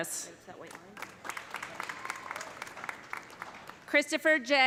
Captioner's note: audience applauding; audience cheering